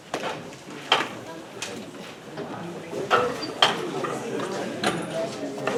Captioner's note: audience chattering indistinctly